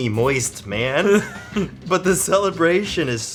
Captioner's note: giggles